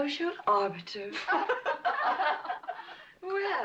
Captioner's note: women laughing